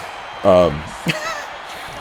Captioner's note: laugh